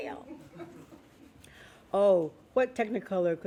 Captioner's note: laughing